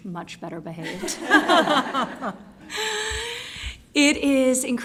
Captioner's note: laughter